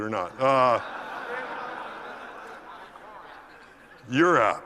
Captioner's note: laugh